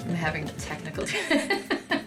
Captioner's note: both laughing